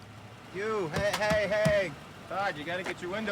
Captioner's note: hand tapping